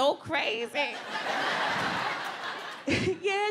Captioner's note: audience laughs